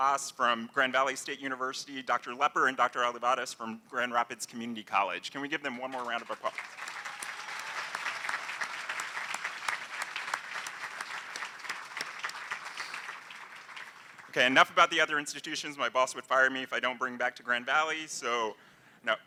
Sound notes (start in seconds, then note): 5.8 applause